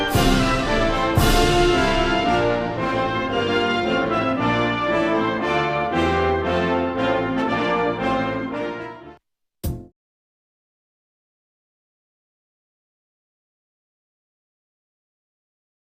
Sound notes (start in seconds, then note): none